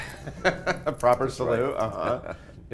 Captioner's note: laughs